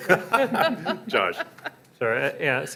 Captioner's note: voiceover